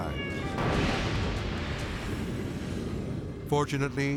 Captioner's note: volcano booming